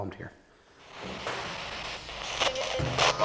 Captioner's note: spirit box scanning; spirit box voice